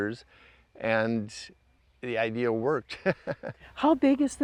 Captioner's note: laughs